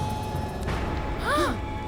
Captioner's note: gasping